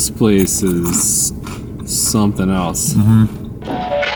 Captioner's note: food crunching